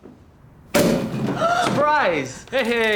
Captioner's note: bottle pops open; gasps